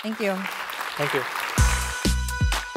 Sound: applause

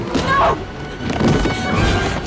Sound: thudding; rattling

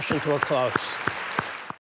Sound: applause

